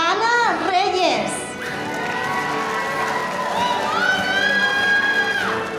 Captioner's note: audience applauding